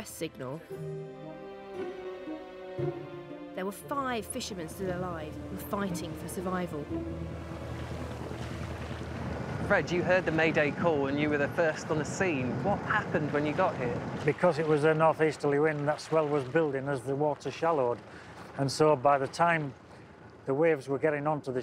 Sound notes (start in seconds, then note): 4.0 suspenseful orchestral music continues; 10.9 boat chugging